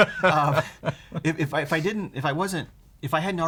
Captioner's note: laughter